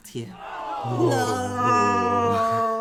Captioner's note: collective background gasp of horror